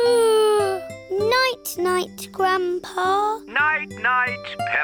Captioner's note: yawns